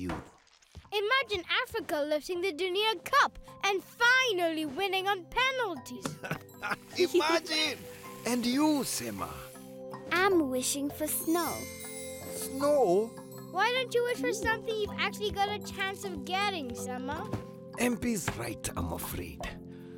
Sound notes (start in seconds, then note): 6.0 laughing